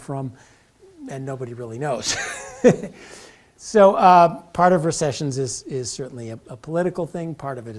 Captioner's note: laugh